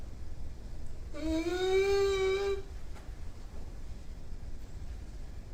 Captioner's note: Patient #6 groans